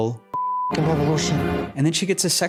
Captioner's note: beeping